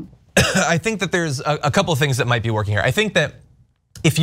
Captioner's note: cough